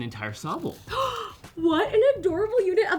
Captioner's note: gasp